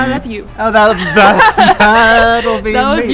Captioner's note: laughs